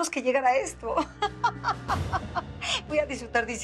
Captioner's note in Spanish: Risas